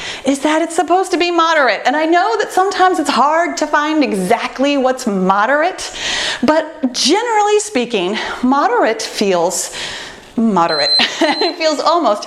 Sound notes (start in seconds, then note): 10.6 timer beeping; 10.9 laughing